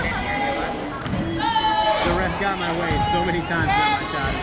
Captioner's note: yelling